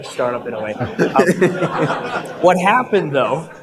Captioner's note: audience laughter